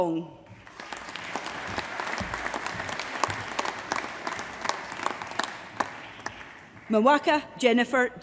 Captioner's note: applause